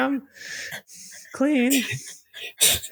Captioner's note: laughter